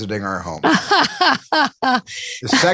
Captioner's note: laughter